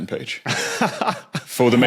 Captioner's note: laughs